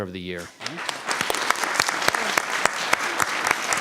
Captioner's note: applause